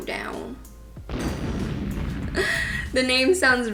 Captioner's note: bomb explodes